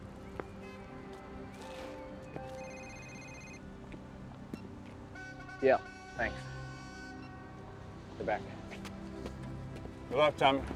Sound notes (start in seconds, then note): 2.5 phone rings; 5.1 horn blowing